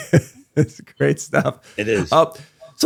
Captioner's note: laughs